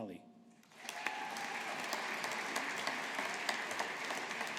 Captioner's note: audience applauding